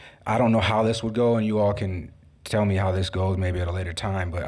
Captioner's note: none